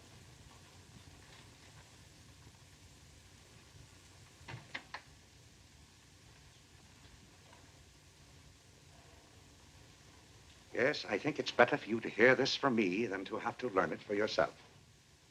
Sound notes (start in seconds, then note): none